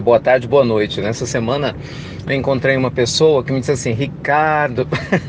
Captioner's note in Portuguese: risos